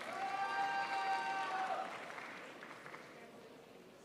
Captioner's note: crowd applauds